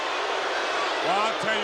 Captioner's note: crowd boos